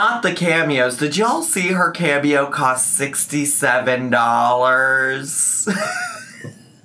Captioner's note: laughs